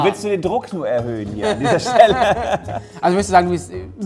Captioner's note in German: Lachen